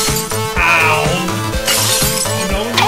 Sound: glass shatters

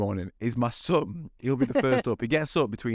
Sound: laughing

